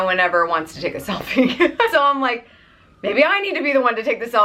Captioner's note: laughs